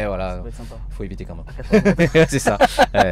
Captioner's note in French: rires